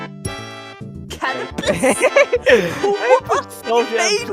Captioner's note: laughing